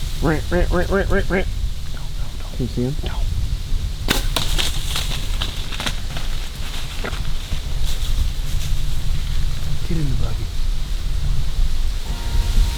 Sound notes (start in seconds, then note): 4.1 sound of bowshot; 4.2 sound of deer running